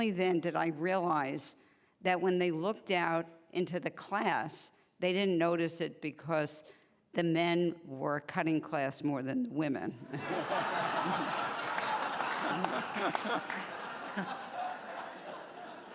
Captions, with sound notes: did I realize that when they looked out into the class, they didn't notice it because the men were cutting class more than the women. [laughing]